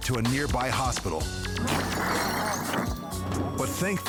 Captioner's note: shattering